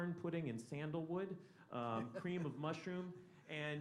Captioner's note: laughter